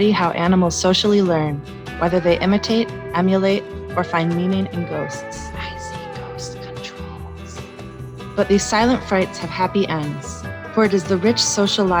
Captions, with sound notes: study how animals socially learn: whether they 'Imitate', 'Emulate', or find meaning in 'ghosts'. [Spooky whisper]: "I see ghost controls..." But these silent frights have happy ends. For it is the rich social